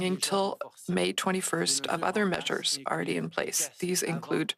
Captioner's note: speaking French